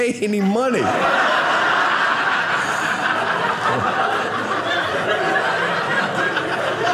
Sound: audience laughing

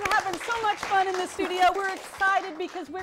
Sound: applause

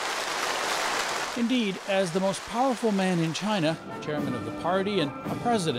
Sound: applause

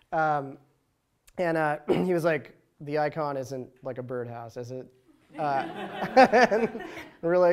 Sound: laughter

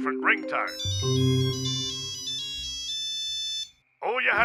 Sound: ringtone plays

